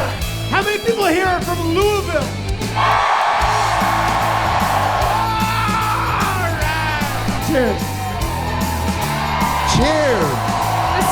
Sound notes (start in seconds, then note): 2.6 audience cheering loudly